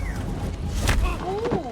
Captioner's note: beep, whirr; thud